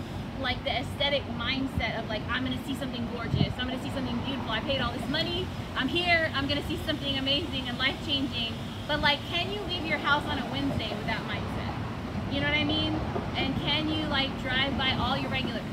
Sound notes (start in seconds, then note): none